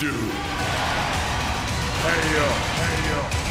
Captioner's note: cheers and applause